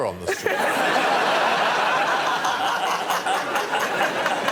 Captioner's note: laughter